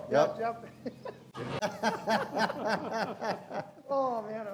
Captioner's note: hosts laughing